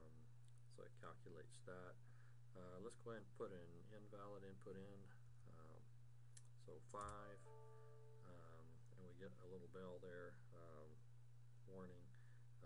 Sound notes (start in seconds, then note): 7.0 computer dings